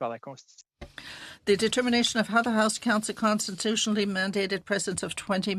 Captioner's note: speaking French